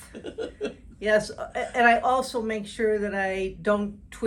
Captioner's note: chuckling